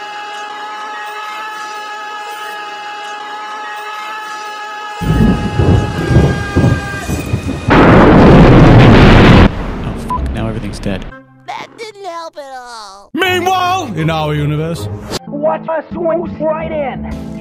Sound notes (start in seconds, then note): 5.0 thunder rumbling; 6.9 boom!